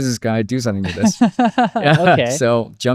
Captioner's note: both laughing